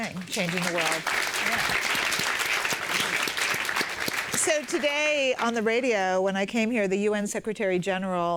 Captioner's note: applause